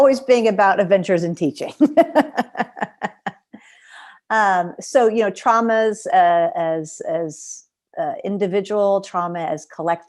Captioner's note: laughter